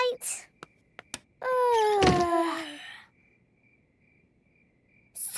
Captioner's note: both yawning; light clicks